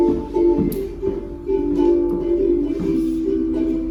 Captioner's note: footsteps